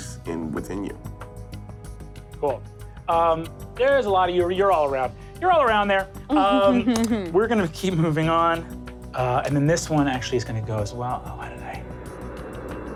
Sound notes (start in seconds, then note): 6.3 laughs